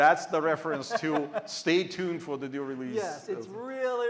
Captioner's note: laughter